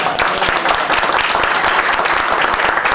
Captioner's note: applause